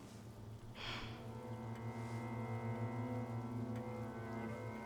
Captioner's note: Rachel sighs